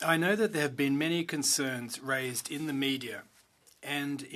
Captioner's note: speaking French